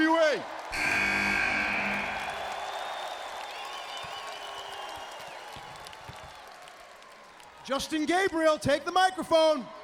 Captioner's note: crowd cheering